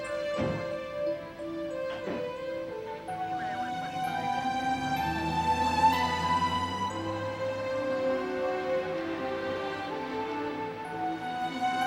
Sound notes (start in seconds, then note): 5.6 engine revving